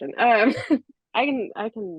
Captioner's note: laughs